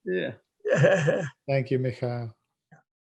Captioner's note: laughs